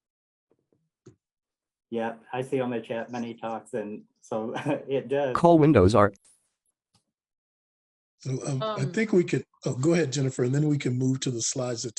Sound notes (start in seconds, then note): 4.4 chuckles